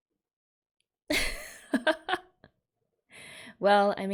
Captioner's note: laughs